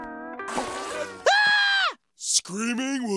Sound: screaming

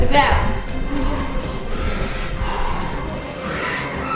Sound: breathing heavily

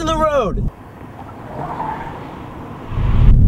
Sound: car screech

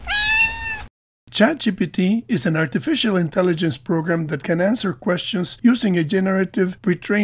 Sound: meow

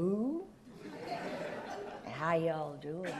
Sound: audience laughs

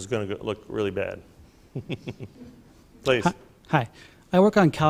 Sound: chuckles

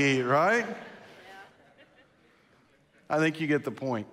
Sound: congregation laughs

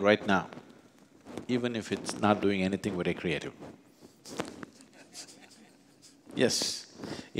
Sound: laughs

